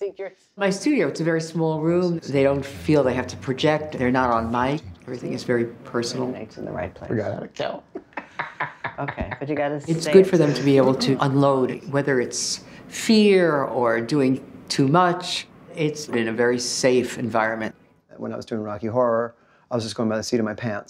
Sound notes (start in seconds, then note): 0.1 narrating; 7.5 narrating; 7.9 laughs